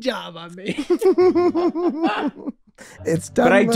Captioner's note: group laughing